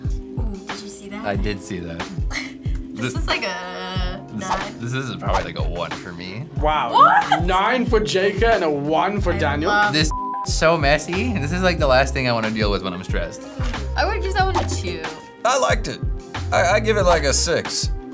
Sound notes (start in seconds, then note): 2.8 laughs